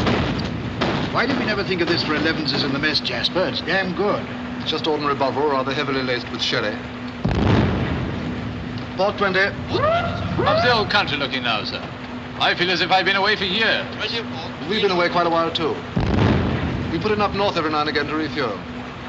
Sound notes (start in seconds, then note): 7.2 explosion